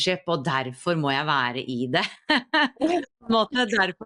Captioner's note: laughs